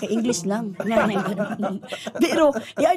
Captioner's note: chuckling